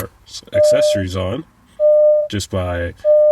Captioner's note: car beeps